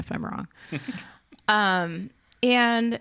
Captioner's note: chuckles